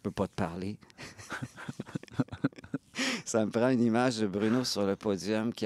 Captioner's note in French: rires